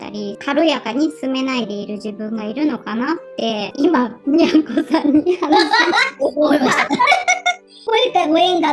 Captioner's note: laughs